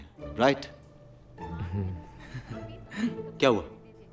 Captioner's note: All chuckling